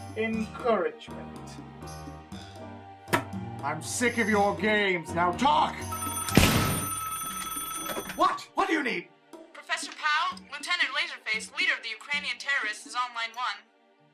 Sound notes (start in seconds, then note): 5.8 phone rings; 6.4 gunshot